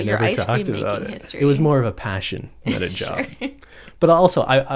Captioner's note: laughing